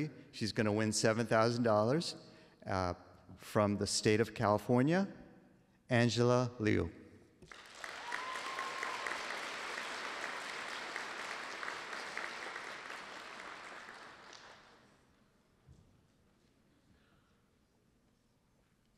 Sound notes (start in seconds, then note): 7.4 applause